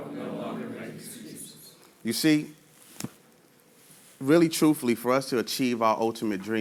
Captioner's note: audience repeats